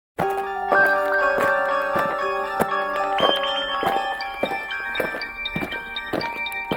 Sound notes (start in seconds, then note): 0.2 aliens marching; 0.2 eerie music